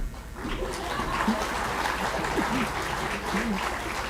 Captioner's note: applause